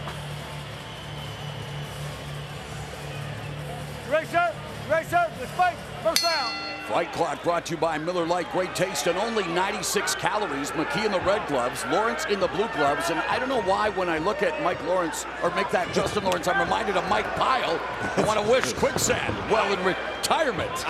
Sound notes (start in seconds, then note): 6.1 bell rings